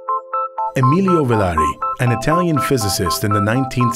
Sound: voiceover

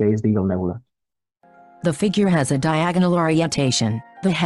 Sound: voice-over

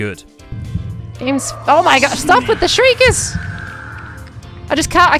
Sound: shriekers shriek

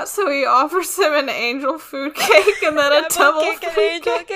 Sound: laughing

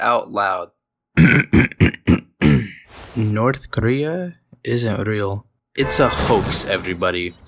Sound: clear throat

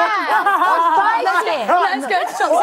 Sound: laughing

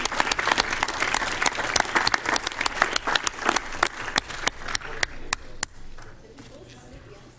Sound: applause

